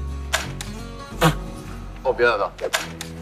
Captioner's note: laughing!